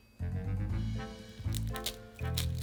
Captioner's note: garlic paper rustling